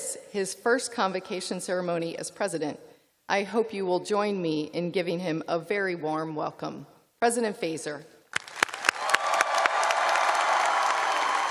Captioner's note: cheers and applause